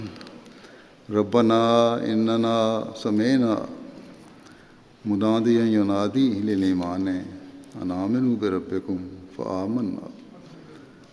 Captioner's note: Arabic